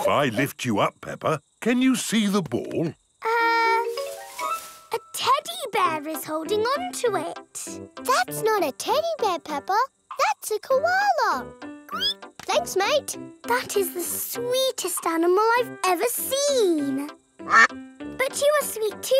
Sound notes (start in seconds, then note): 11.9 squeals; 17.4 quacks